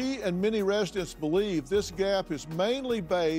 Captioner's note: none